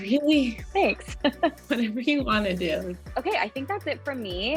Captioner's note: laughing